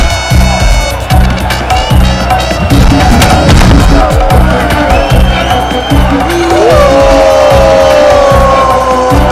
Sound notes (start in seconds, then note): 6.3 Crowd booing